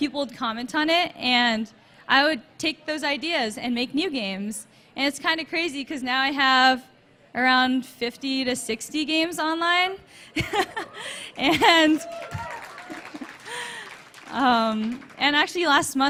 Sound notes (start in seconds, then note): 10.4 laughs; 11.9 applause